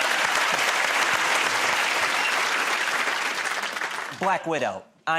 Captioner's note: applause